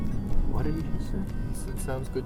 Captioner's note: quietly